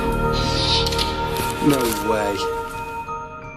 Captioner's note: screeching